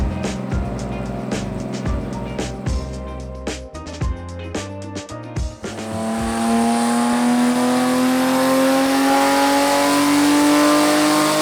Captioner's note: engine revving